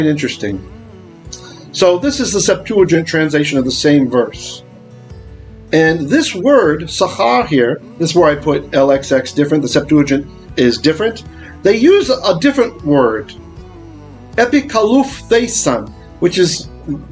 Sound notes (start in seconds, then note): 6.2 Hebrew